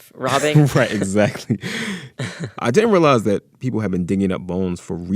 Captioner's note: laughter